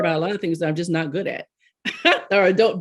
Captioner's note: laughs